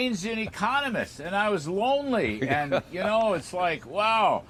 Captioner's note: laughter